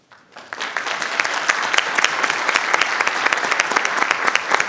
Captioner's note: everyone applauding